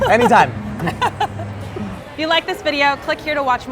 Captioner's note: laughter